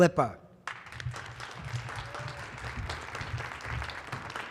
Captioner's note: audience clapping